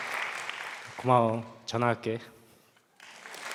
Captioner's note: speaking Korean